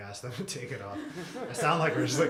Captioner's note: laughter